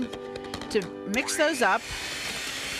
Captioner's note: blender whirring